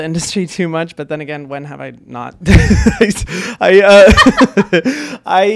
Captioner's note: laughs